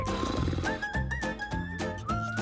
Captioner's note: making noises with his mouth; both making mouth noises; laughing